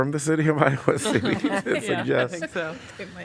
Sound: laughter

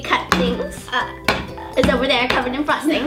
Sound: bangs on the table

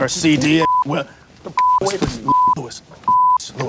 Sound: beep; beep

